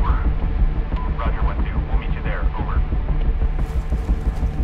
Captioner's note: radio